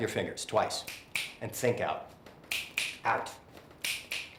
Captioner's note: snap, snap